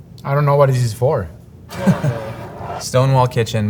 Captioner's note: chuckles; jar sliding